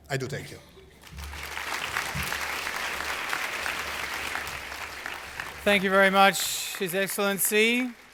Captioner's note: applause